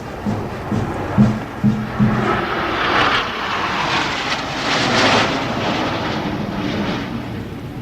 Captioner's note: jet engines roaring